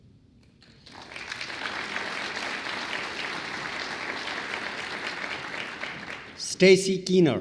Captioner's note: applause